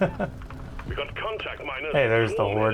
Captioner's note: laughter